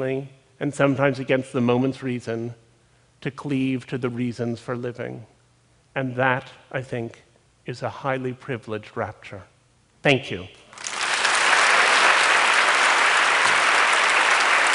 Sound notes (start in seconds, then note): 10.7 Aplauz